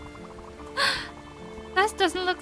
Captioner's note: gasps